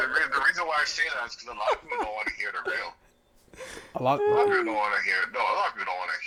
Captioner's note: laughing